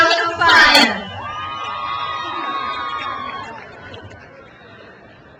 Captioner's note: crowd cheers